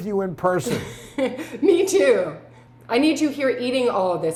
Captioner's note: laughs